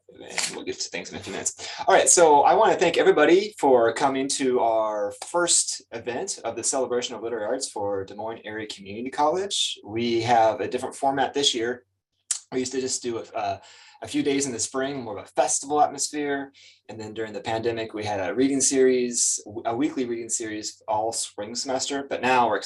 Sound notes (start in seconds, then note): 11.9 lips smack